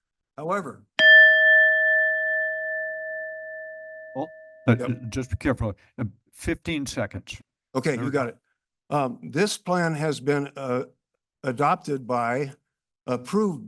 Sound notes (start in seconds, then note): 1.0 bell rings